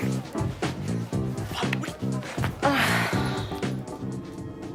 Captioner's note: sighing